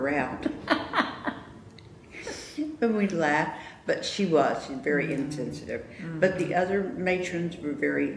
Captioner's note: laughter